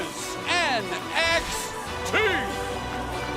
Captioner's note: bell ringing